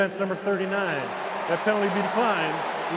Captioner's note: cheering